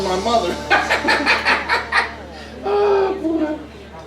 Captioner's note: both laughing